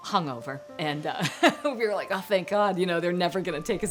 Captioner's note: laughs